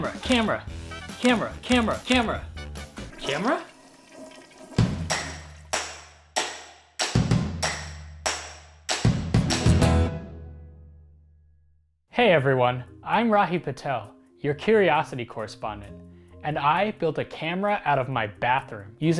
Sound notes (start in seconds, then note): 2.8 flushing; 4.7 slow beating